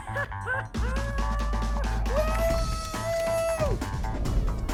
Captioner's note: laughs